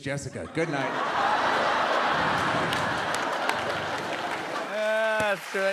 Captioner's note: laughter